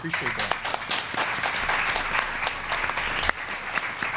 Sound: audience applauds

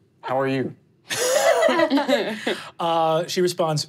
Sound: laughing

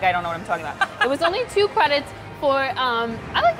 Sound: laughs

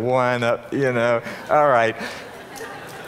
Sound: audience laughing

